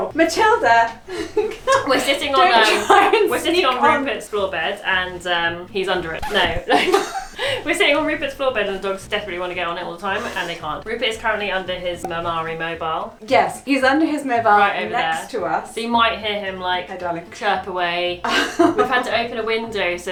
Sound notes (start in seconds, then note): 6.0 both laughing; 6.3 record scratches; 18.2 laughs